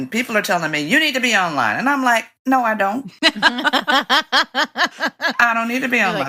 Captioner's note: laughter